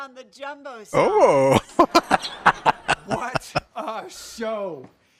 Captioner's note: laughing